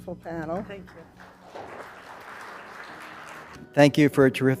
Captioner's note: applause